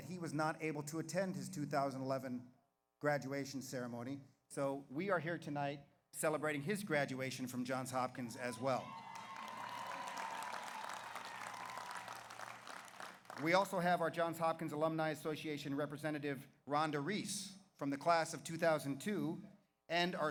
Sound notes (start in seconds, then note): 8.2 audience cheers; 8.4 audience applauds